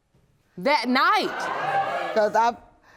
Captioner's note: audience gasping